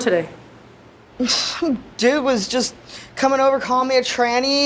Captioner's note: scoffs